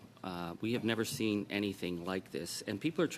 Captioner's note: speaking French